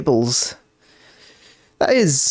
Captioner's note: inhales